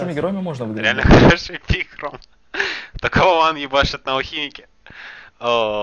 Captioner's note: laugh